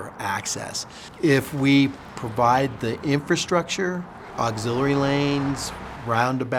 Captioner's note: cars driving